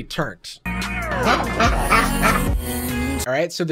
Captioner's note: duck quacks